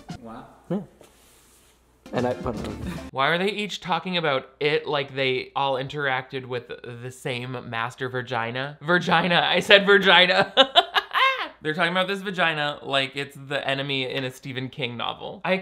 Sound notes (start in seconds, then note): 10.6 laughing